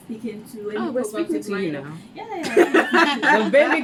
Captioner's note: laughs